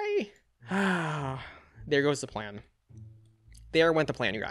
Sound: sighs

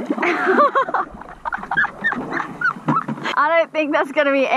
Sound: giggles

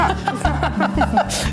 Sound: laughing

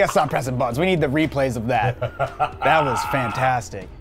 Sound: laughing

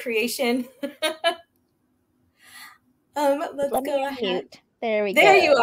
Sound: laughing

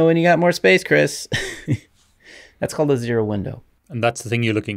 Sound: chuckles

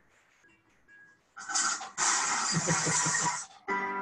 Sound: crash!

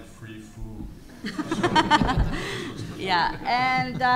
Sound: all laughs

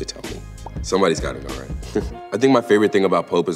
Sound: chuckles

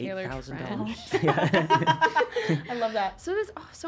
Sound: laughing

